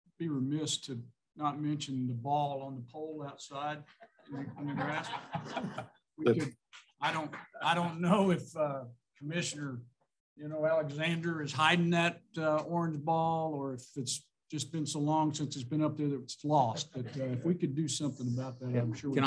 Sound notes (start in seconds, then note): 3.9 laughter